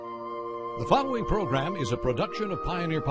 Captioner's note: voiceover